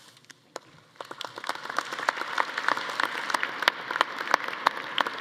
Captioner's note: audience applauding